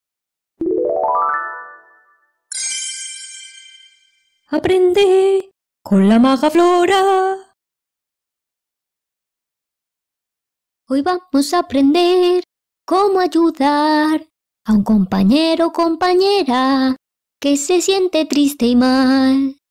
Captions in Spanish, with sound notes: (Sonido de magia) (Sonido de magia 2) Aprende con la Maga Floraaa Hoy vamos a aprender cómo ayudar a un compañero o compañera que se siente triste y mal.